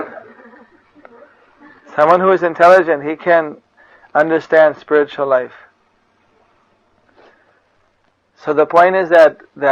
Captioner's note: laughter